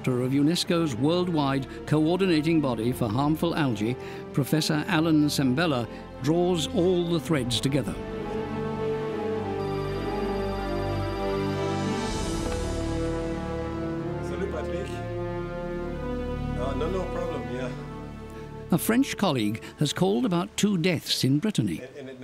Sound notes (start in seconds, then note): 9.7 phone rings